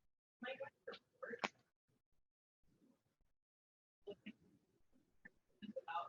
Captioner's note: audio drops; audio drops